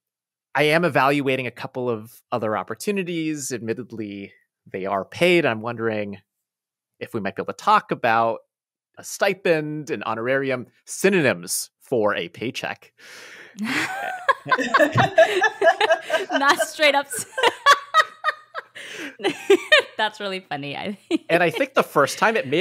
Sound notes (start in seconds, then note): 13.6 laughter; 17.2 laughing